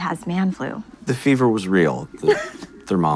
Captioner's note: patient laughs